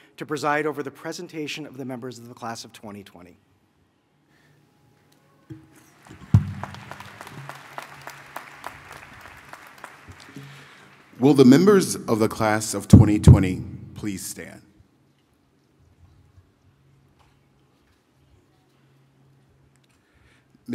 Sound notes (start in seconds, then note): 5.9 applause